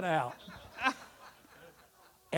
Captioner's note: audience laughter